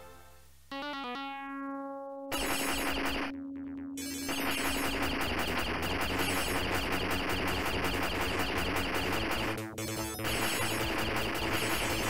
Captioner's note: game sounds